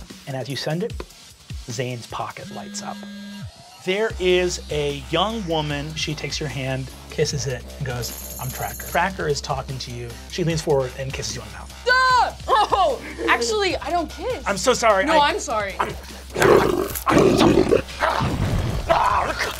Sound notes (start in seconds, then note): 2.4 buzzing; 11.9 Kristen screams; 15.8 beast growls